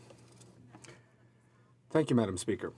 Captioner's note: speaking in french